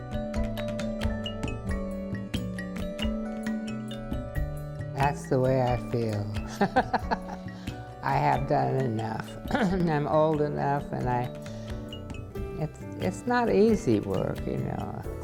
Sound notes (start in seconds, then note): 6.5 laughs